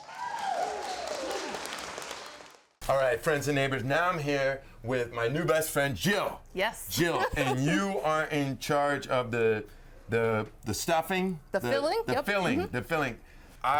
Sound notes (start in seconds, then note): 0.0 audience applauding and cheering; 7.0 chuckling